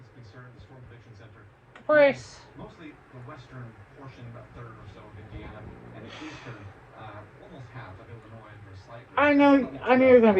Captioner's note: continues to growl